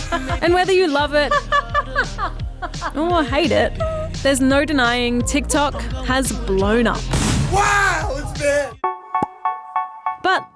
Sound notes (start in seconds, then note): 2.0 laughs